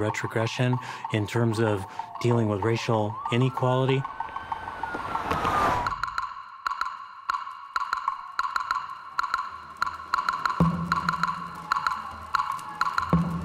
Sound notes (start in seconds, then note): 2.8 siren